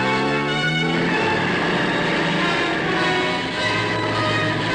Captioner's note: engine roaring; suspenseful instrumental music